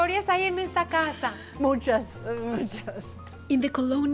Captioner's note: speaking Spanish